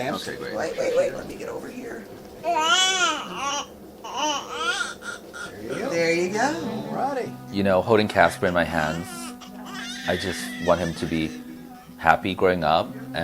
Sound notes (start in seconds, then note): 4.0 crying